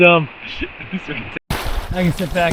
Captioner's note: laughing